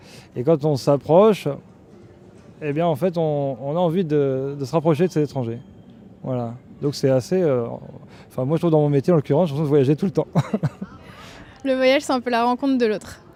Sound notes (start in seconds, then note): 10.3 laughter